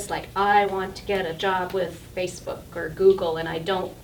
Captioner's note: none